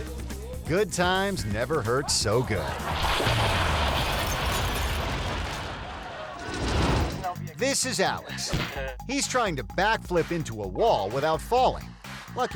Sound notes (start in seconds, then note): 2.8 bricks clattering